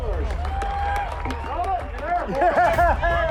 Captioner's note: cheering and applause